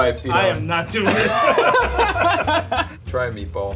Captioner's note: both laughing